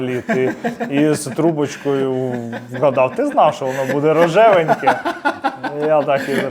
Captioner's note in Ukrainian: сміх